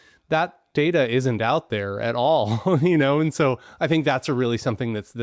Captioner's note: chuckles